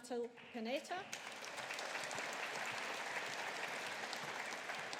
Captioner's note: audience applauding